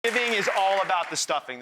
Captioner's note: audience applause